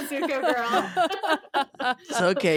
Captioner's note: laughing